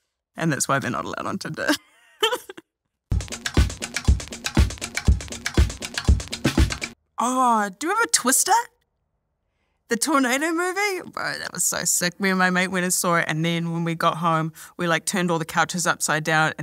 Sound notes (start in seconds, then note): 2.1 laughs